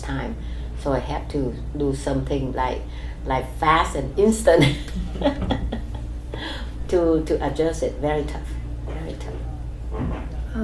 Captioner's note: laughs